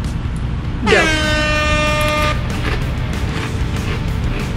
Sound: horns blaring

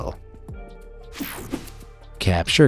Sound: whooshing logo

